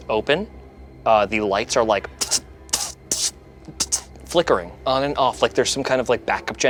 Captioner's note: sputters